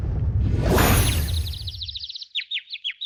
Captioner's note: birds chirp